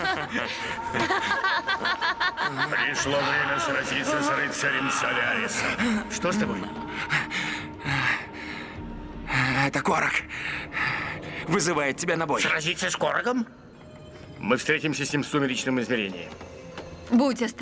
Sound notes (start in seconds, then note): 0.0 laughter; 6.7 breathing heavily